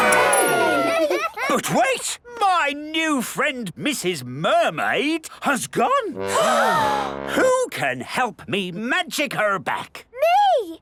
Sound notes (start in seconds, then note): 6.2 all gasp